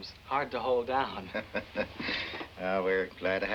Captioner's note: chuckles